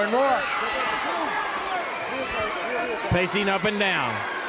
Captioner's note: crowd cheering